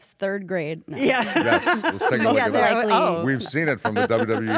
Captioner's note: laugh